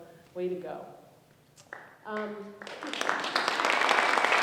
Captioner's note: applause